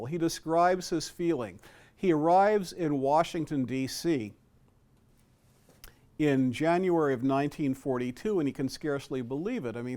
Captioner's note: none